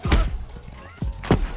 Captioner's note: bump